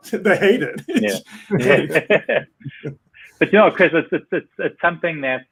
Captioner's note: laughing